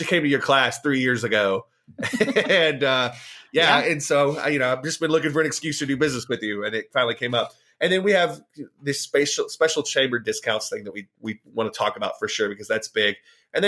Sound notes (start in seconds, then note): 2.0 both laughing